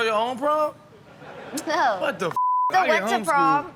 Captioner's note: audience laughing